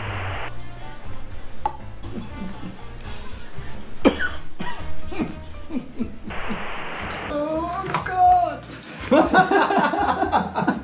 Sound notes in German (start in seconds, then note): 4.0 Husten; 8.8 Gelächter